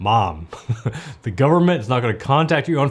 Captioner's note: chuckling